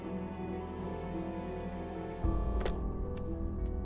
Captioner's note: Cell phone vibrating